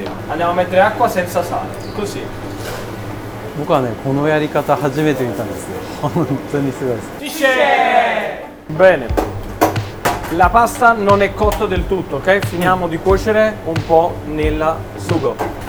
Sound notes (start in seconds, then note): 8.5 Italian